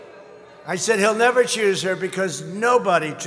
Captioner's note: laughs